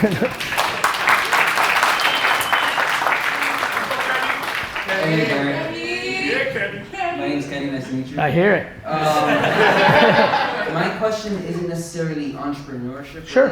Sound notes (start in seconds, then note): 0.0 audience applause and cheers; 4.4 crowd; 8.8 audience and Gary laugh